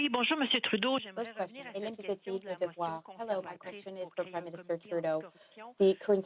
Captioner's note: speaking French